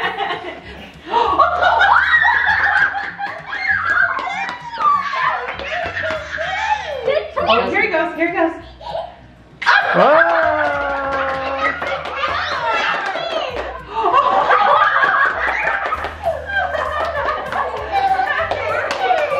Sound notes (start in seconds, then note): 0.0 laughs; 1.6 everyone cheers and applauds; 9.6 everyone cheers and applauds